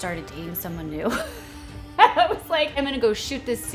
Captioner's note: laughs